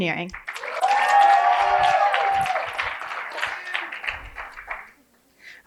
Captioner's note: cheering and applause